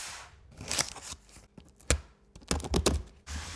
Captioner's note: box rustles; tape rasps